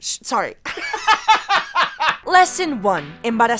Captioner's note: laughs